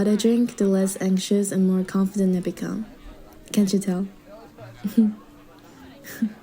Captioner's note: chuckle